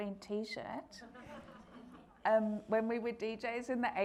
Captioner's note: audience laughing